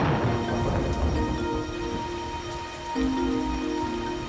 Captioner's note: thunder crashes